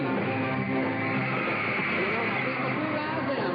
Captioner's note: crowd cheering